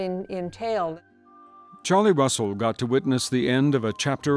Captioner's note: voiceover